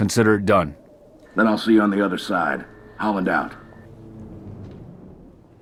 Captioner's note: radio